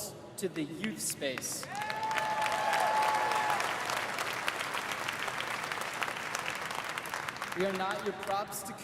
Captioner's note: applause